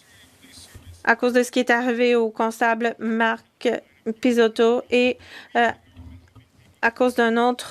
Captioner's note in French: voix de l'interprète